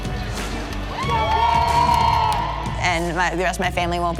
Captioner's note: crowd cheering